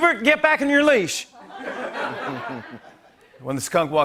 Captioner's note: laughter